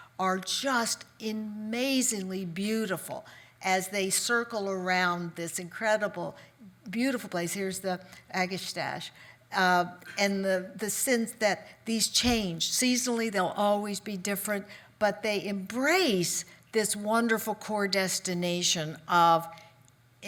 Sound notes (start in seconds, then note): none